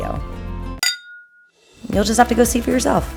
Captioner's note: glasses clinking